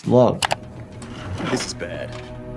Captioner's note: cart wheels roll